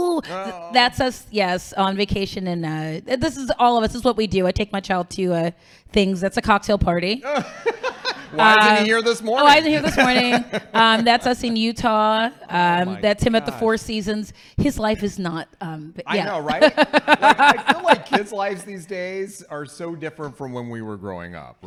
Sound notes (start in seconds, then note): 7.2 laughing; 16.0 laughing